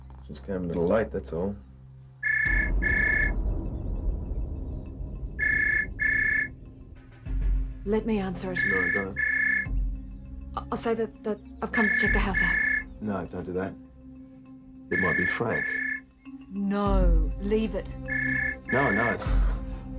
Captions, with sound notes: It just came a little late, that's all. (phone rings) - Let me answer it. - No, don't. (phone rings) - I'll say that I've come to check the house out. - No, don't do that. It might be Frank. - No, leave it. - No, no.